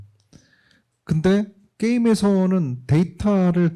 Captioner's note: speaking korean